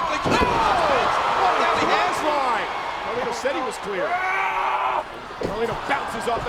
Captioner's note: body thudding; presenter speaking faintly off mic